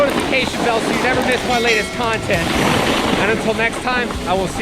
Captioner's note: bell dings